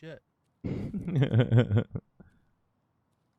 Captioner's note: laughing